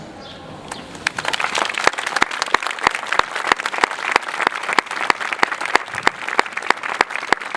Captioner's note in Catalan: aplaudiments